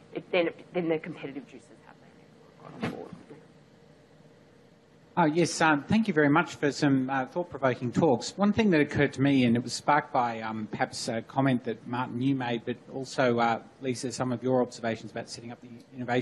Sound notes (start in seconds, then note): 2.9 audio quiets; 5.4 voiceover